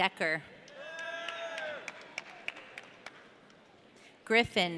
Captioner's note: audience cheering